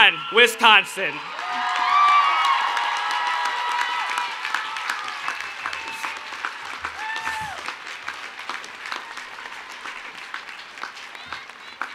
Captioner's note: cheering and Applause